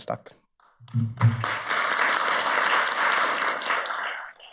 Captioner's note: audience applauds